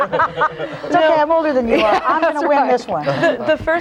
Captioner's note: all laughing